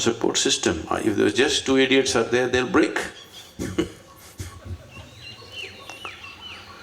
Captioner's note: laughs